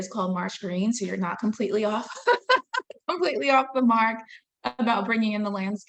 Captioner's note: laughing